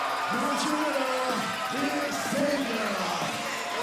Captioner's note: bell ringing